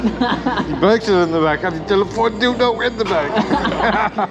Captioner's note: laughter